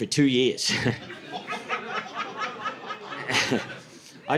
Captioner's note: audience laughing